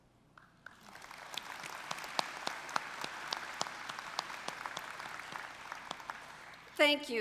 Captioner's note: applause